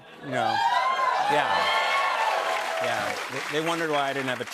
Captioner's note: cheers and applause